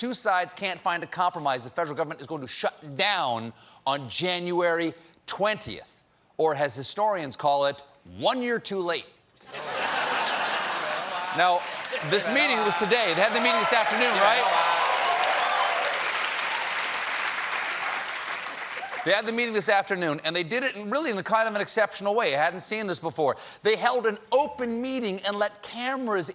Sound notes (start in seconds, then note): 9.4 laughter; 15.6 cheers and applause